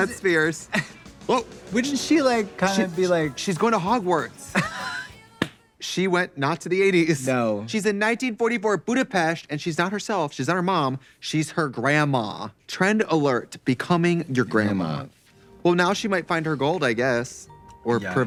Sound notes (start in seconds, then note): 4.5 Katya laughing